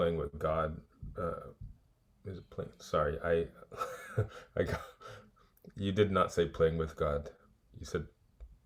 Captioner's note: laughs